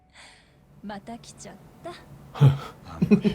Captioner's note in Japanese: 笑い